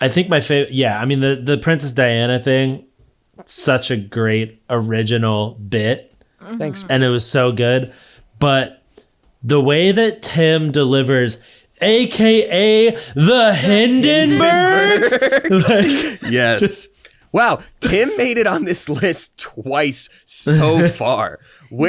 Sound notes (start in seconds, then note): 13.4 all laughing